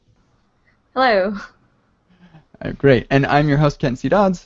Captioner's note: chuckling